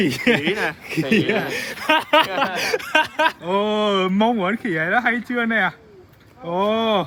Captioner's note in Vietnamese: tiếng cười